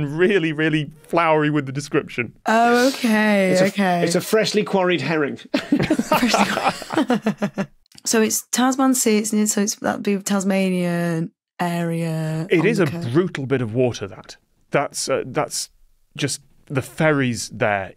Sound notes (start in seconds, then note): 5.5 group chuckling